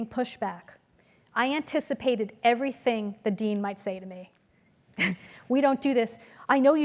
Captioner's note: laugh